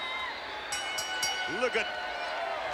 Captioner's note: bell rings